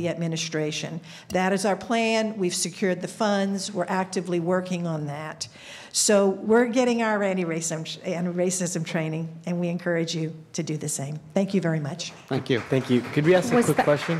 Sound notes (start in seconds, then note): 12.1 applause